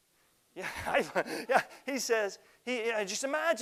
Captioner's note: laughs